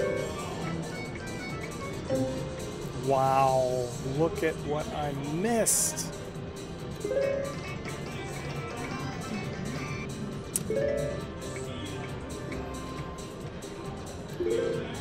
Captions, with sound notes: Wow, look at what I missed. (machine beeps)